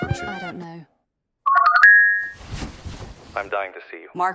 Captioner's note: cellphone rings